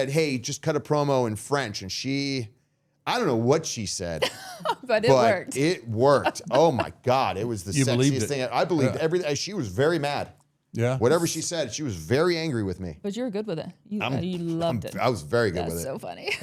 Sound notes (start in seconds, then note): 4.2 laughing